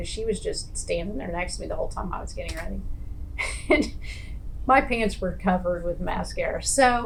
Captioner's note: laughs